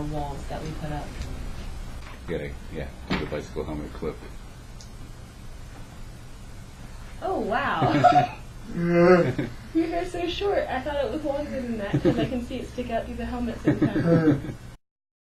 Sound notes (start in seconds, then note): 7.8 laughter